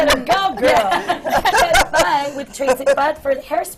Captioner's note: laughter